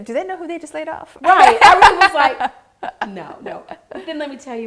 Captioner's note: laughing